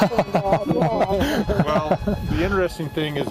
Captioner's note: laughter